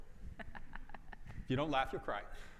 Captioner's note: laughs